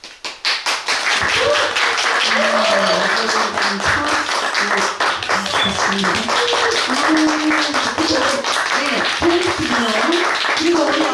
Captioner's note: applause and cheers